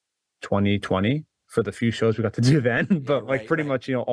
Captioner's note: laughs